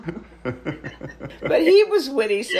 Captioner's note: laughs